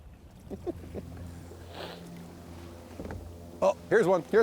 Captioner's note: chuckles